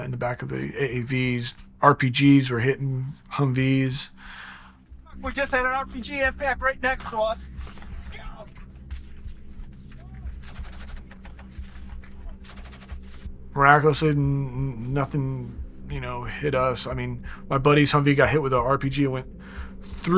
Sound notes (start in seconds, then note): 9.8 gunfire